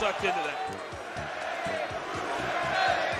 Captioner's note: crowd